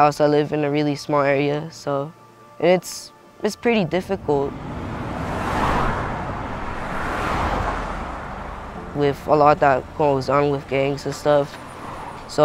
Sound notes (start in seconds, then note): 5.7 traffic rushing